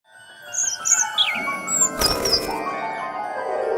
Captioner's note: bird chirps